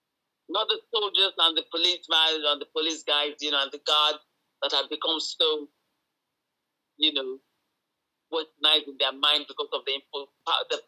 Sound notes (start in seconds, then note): none